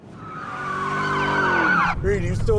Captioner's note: siren blaring